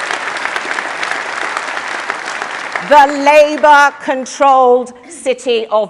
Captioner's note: applause